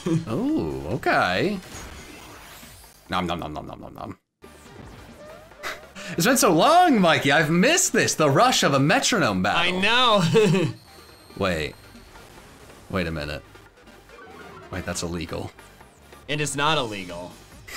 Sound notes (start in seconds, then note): 5.9 upbeat music; 10.2 chuckles